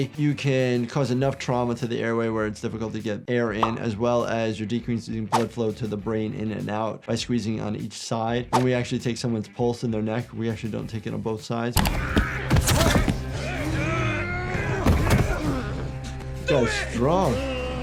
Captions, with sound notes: you can cause enough trauma to the airway where it's difficult to get air in as well as you're decreasing blood flow to the brain in and out, by squeezing on each side. When we actually take someone's pulse in their neck, we actually don't take it on both sides. (fighting and grunting) So strong.